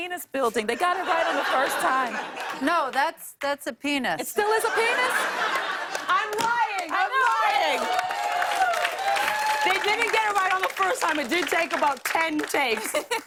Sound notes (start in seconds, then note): 4.5 laughter; 5.3 cheers and applause